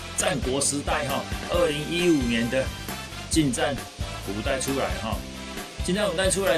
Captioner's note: mispronunciation